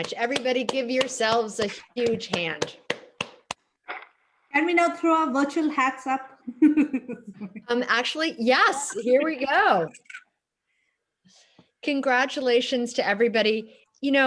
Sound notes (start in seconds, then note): 2.2 clapping; 6.5 laughs